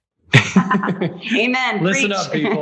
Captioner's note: laughs